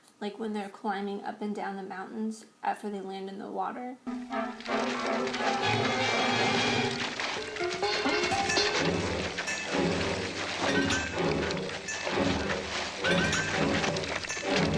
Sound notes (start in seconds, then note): 4.0 rocks sliding; 4.1 suspenseful music